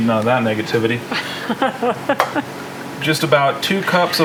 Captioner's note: laughing